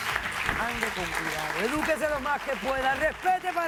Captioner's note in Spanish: Aplausos